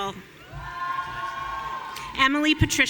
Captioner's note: audience cheering